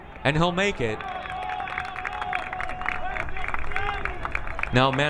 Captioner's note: crowd applauding